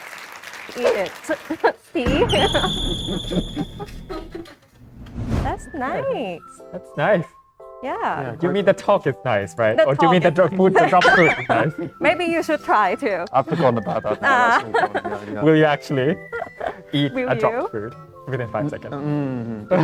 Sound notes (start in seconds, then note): 10.8 laugh; 13.5 laugh